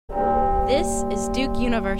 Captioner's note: bell chime